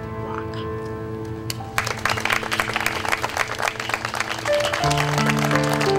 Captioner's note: applause